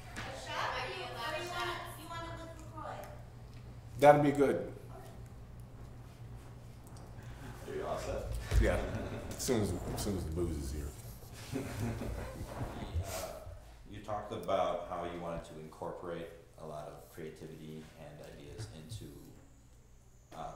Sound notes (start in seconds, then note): 11.4 interviewer laughs